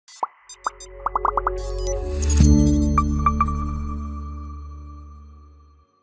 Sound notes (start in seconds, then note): 0.5 logo popping; 2.4 electronic music